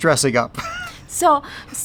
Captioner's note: chuckles